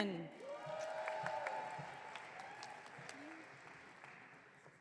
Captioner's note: audience cheering